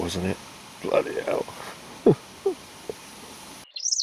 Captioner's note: laughter